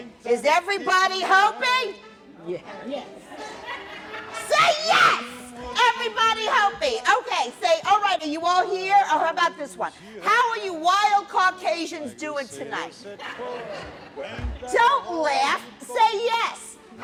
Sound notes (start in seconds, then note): 3.2 laughter; 13.0 laughter